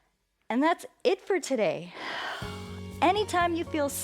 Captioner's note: exhales